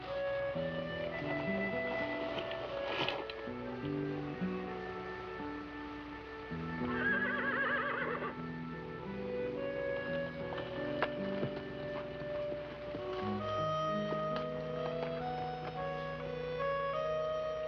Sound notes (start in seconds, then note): 1.9 mellow music; 6.8 horse neighing